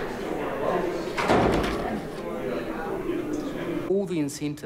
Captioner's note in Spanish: puerta cerrándose